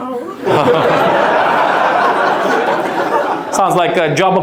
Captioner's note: audience laughs